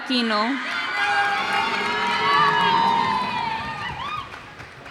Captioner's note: cheers and applause